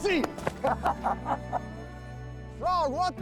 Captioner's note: laughter